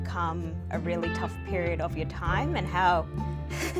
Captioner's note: laughs